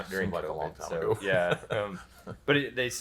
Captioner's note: laughs